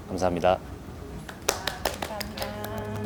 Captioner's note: applause